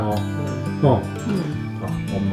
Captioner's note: nonverbal grunt as interjection